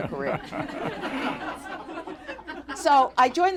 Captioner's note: laughter